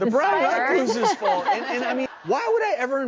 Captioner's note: audience laughter